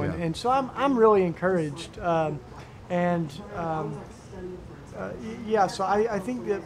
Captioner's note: people talking quietly